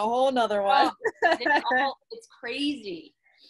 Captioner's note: laughs